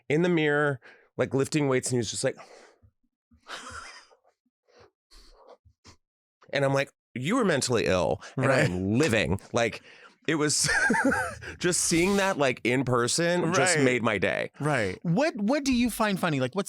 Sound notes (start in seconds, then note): 3.5 Delta laughs; 10.6 laughs